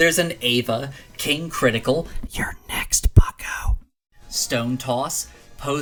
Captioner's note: menacing whispering voice: "You’re next, bucko"